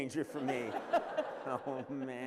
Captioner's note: laughter